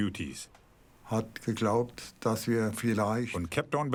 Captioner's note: speaking in foreign language